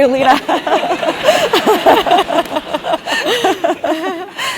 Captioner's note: laugh